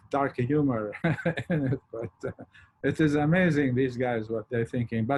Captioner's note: chuckles